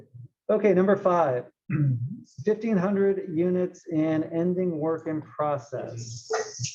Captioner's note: cough